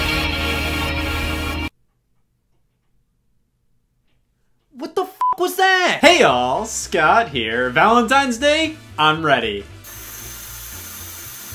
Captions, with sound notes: What the (beep) was that? Hey all, Scott here. Valentine's day. I'm ready.